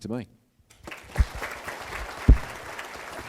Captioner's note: applause